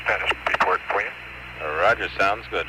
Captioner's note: radio transmission